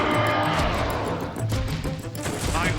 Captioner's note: roaring